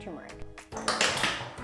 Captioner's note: glass clanking